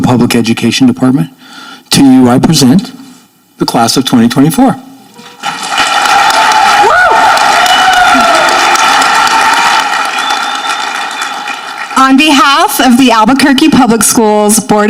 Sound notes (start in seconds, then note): 5.3 audience clapping